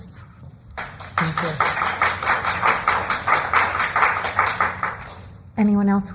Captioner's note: applause